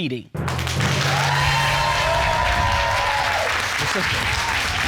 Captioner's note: audience cheering